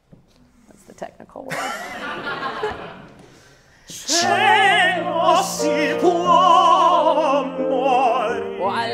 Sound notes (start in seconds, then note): 1.5 audience laughing; 4.9 singing in foreign language